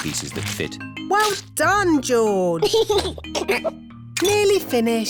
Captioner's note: giggles